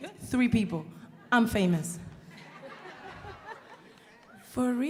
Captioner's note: audience laughing